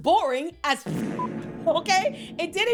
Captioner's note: beep